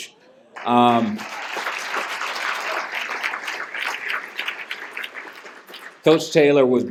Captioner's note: applause